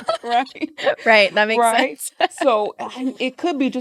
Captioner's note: laughs